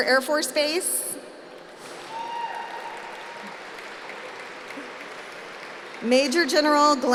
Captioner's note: applause